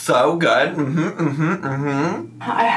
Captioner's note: hums